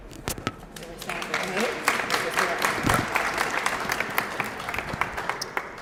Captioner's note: applause